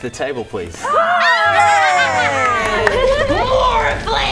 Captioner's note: cheering